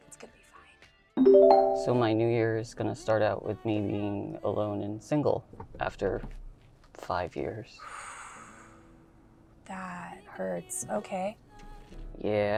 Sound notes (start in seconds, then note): 8.1 Georgia exhales